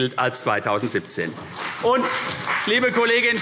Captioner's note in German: Beifall CDU